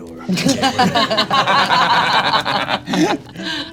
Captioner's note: heroes laugh